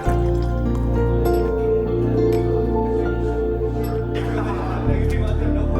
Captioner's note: liquor splashing; glasses clinking; men laughing